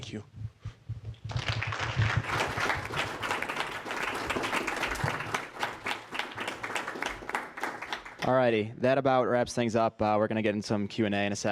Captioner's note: applause